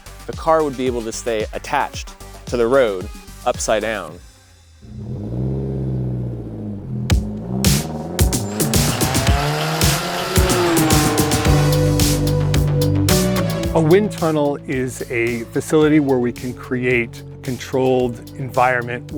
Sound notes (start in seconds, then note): 4.8 car sounds; 7.1 upbeat music